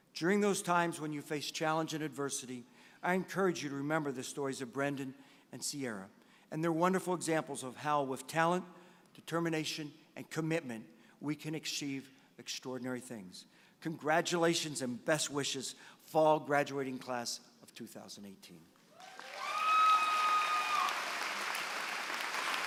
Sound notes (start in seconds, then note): 18.9 applause